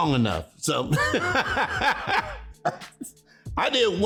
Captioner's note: laughing